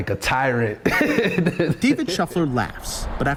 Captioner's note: laughing